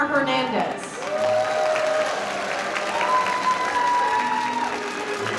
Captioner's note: audience cheering